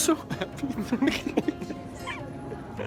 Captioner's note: giggles